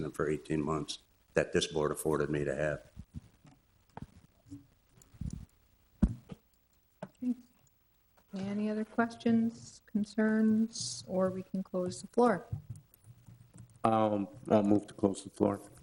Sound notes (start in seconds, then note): none